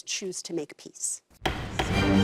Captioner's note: gavel banging